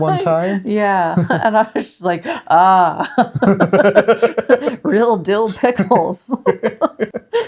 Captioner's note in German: lacht